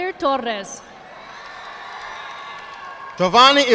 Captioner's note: audience applauding